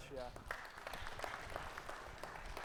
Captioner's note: audience applauding